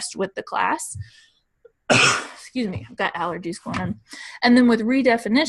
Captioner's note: coughs